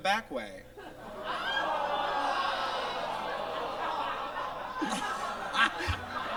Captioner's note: audience exclaims and laughs